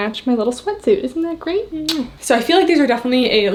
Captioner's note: lips smooching